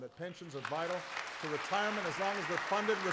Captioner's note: applause